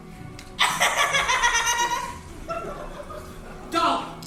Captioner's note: Ernestina laughing